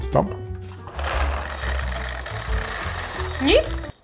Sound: cereal rustling

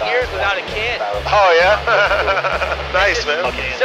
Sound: laughs

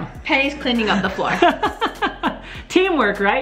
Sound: laughter

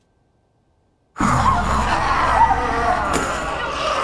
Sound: zombie hiss and snarl; scream

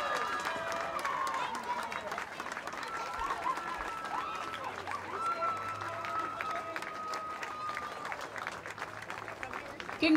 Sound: crowd cheering

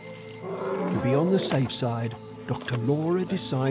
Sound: elephant grunts

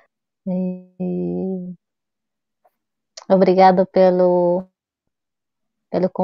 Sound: speaks portuguese

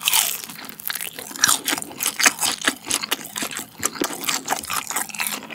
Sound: crunchy-crunchy

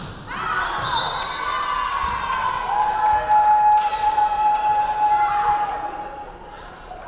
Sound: crowd cheering; referee whistling

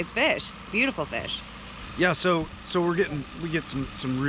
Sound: boat engine idling

